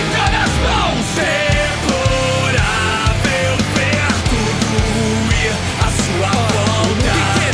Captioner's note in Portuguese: Tom melancólico